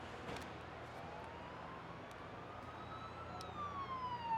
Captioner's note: siren wailing